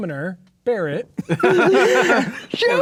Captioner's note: players laughing